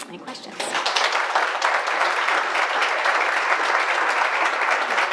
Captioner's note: audience applauding